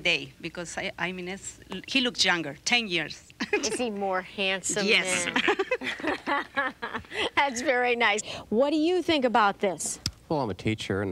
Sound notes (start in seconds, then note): 4.9 laughing